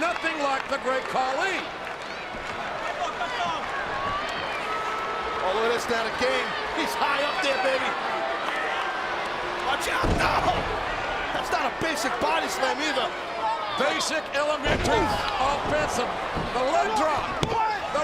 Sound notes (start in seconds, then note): 0.0 applause